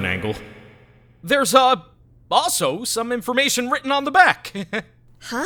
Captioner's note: awkward laugh